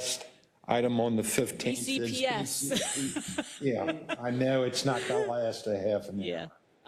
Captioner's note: laugh